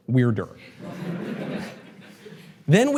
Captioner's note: audience laughter